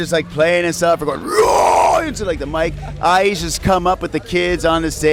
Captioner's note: gutural voice